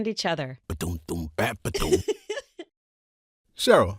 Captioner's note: happy giggle